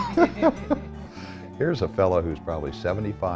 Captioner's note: laughter